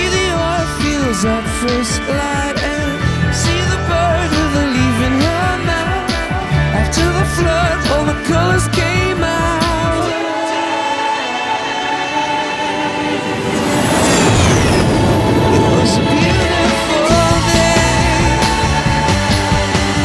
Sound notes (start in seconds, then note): 14.0 plane roars